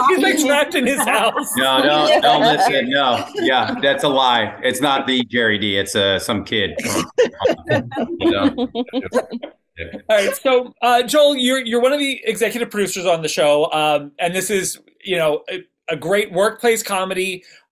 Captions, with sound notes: - He's like trapped in his house. - No, no, no, listen, no. Yeah, that's a lie. It's not the Gerry Dee. It's some kid. (panel laughs) - All right, so Joel, you're one of the executive producers on the show. And this is a great workplace comedy,